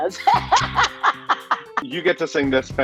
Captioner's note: laughs